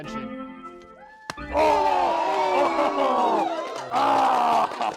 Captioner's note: cheers